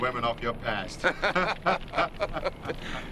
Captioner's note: laughing